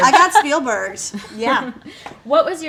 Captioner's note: laughing